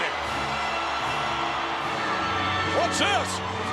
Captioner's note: audience cheering and applauding